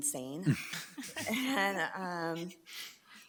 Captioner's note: people chuckle